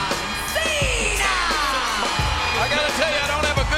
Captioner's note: audience cheers